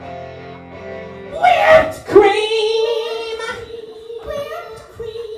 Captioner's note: sexy echoes